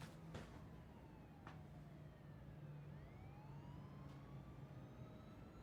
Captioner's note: police siren in the distance